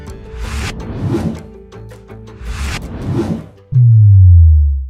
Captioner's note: graphic whooshing; graphic whooshes